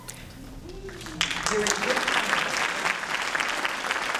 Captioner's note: applause